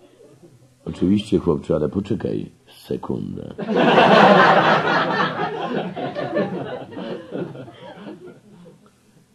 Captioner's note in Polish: śmiech